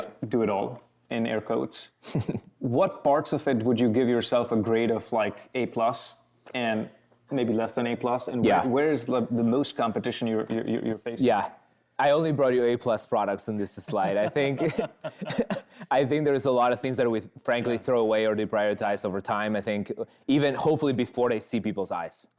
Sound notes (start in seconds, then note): 2.0 chuckles; 13.8 chuckles